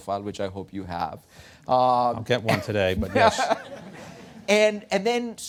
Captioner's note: laughter